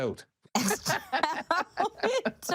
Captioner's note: laughter